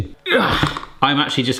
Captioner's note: groaning